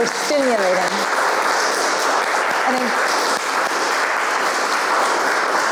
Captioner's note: audience applauds